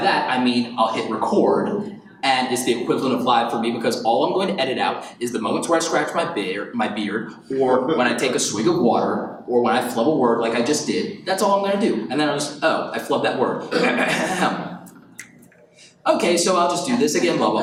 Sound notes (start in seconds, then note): 13.7 clears throat